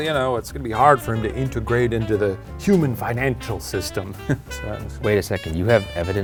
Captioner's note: chuckling